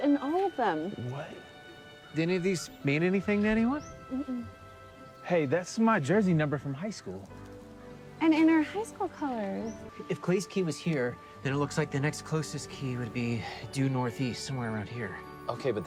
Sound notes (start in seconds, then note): none